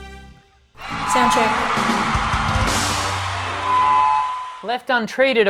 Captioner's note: audience cheering